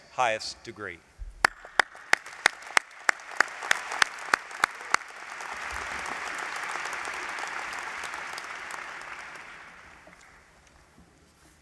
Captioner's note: applause